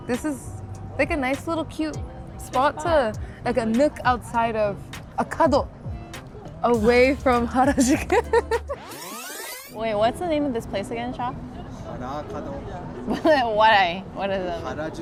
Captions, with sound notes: This is like a nice little cute spot to, like a nook outside of, a cuddle away from Harajuku. (tape rewinding) - Wait, what's the name of this place again, Shah? - Harakado. - But why, what does that...